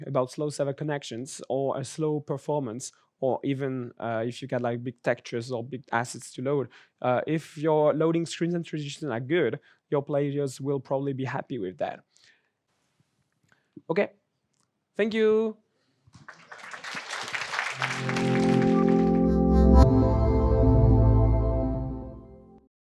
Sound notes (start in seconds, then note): 16.1 applause